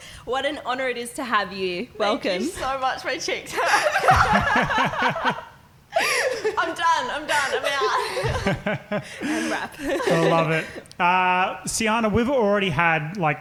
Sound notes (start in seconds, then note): 3.8 laughing; 7.9 laughing